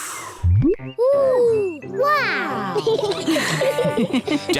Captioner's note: all laugh